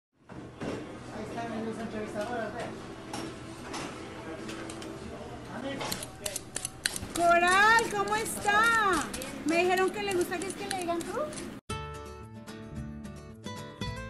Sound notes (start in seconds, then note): 2.4 sounds of kitchen; 7.7 spanish being spoken; 11.8 soft guitar